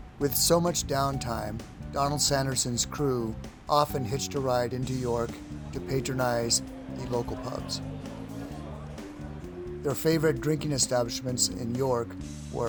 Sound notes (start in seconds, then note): 8.1 people chatter